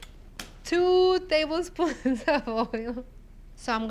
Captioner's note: laughs